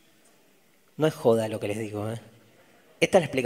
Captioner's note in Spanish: laughter and murmurs from the audience